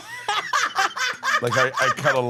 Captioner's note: laugh